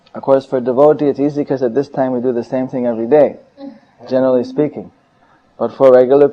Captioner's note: a mataji chuckles